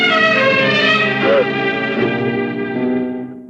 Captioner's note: gasps